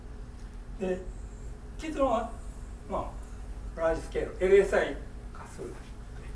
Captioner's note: speaking in foreign language